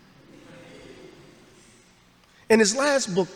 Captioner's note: audience laughs